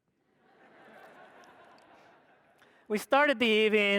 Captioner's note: audience laughs